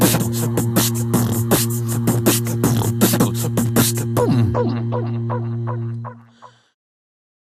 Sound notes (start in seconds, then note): 0.0 upbeat music; 1.7 beatboxing